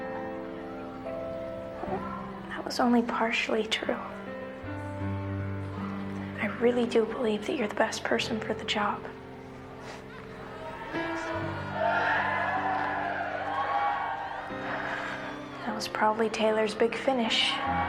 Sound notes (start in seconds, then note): 11.0 Griffin chuckles; 11.6 crowd cheers; 17.7 crowd chanting "Taylor"